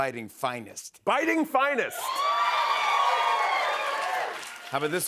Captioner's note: cheers and applause